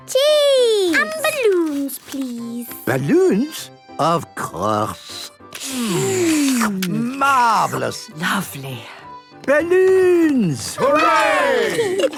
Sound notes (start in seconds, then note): 4.9 slurping